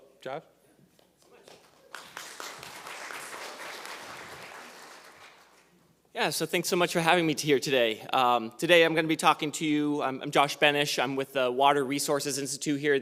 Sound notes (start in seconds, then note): 1.5 audience applauding